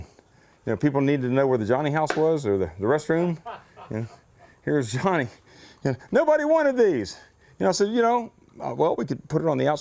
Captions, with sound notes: And people need to know where the Johnny house was, or the restroom, and, (laughter) Here's Johnny! And nobody wanted these! So, you know, well we could put it on the outside of the door, well,